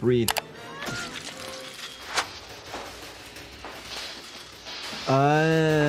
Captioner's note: dramatic music; Tatum wailing; electricity crackling